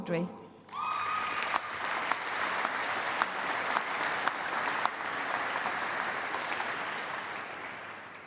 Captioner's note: applause